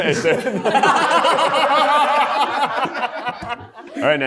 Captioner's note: everyone laughing